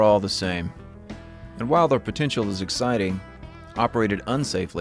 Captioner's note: none